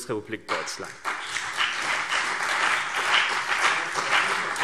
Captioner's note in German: Beifall CDU und BÜNDNIS 90/DIE GRÜNEN